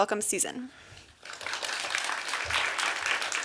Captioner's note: applause